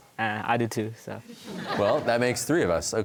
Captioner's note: audience laughter